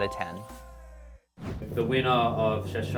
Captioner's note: bell dings; air whooshing